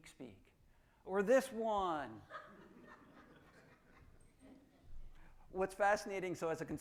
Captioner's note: audience laughing